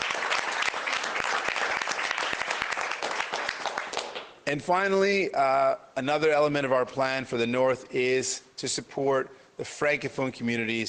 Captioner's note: cheers and Applause